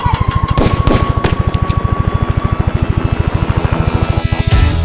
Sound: guns banging

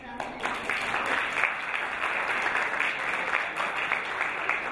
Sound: crowd applauding

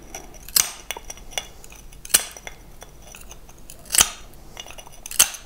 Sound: grinding and snapping

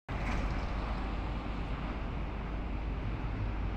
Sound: traffic noise

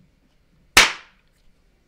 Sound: clap

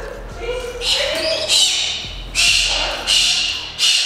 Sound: squawking

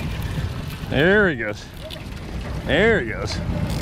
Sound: cranking; shuffling

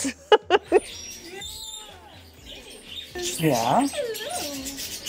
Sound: birds chirping

